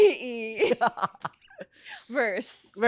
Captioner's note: laughs